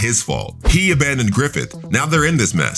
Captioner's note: air whooshing